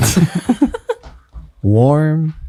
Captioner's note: friars laugh